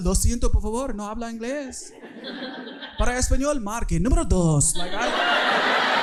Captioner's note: speaking in foreign language; audience laughing